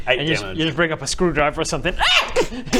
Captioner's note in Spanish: ¡Aaaaaaah!